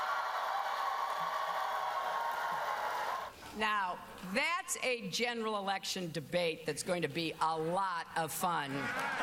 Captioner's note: cheers and applause